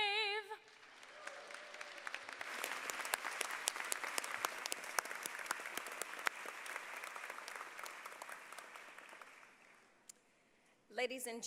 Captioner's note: applause